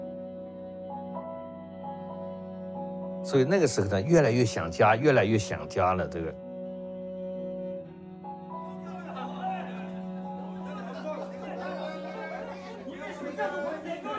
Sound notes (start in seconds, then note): 0.9 gentle dramatic music; 3.4 speaks in Chinese language; 8.8 men chattering